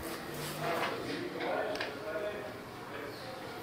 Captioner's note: quiet snippets of conversation in the background